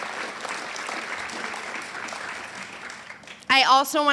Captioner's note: audience applauds